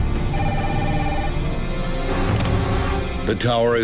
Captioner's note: phone ringing